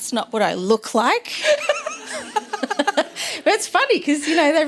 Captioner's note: laughter